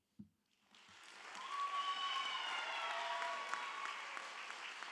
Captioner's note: audience applauds